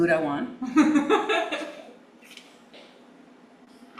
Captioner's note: giggling